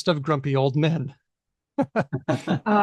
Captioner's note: laughter